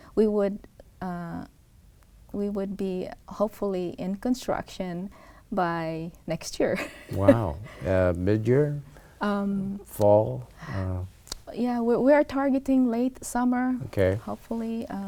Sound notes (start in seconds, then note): 7.1 laughs